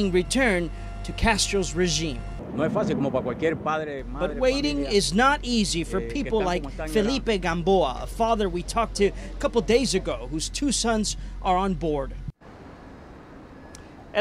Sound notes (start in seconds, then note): 8.1 speaking in spanish